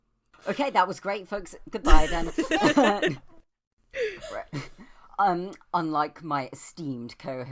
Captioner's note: laughter